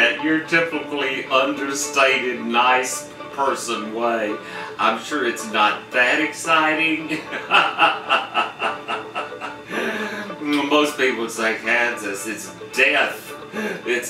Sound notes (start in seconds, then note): 6.9 laughs